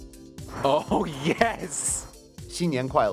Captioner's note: male Voice; speaking foreign language